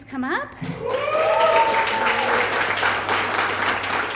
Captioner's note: applause